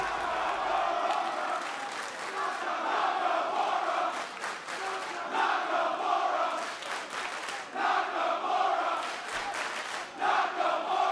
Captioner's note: fans chanting